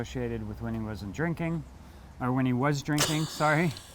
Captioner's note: laughs